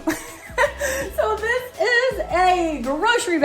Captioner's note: laughs